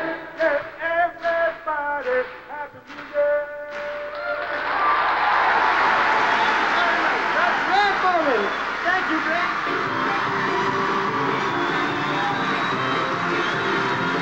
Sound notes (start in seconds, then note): 4.4 applause; 9.9 band begins to play